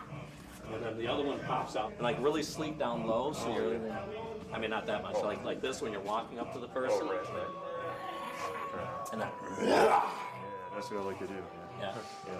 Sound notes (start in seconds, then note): 6.4 snarling; 9.8 roars